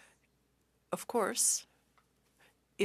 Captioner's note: speaking French